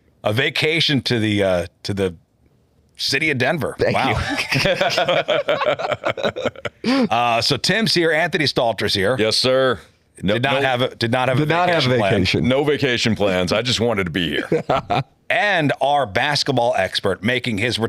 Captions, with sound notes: A vacation to the city of Denver. Thank you. [LAUGHTER] So Tim's here, Anthony Stalter's here. Yes, sir. Did not have a vacation plan. No vacation plans, I just wanted to be here. And our basketball expert making his